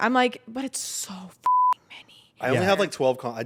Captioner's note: beep